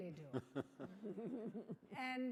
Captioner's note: laughing